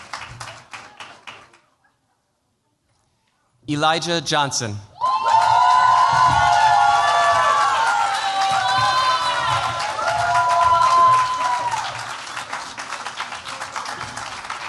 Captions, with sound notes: Elijah Johnson. [CHEERS, APPLAUSE]